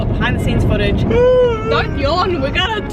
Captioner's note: man yawns